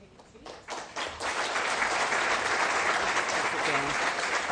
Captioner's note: crowd applauds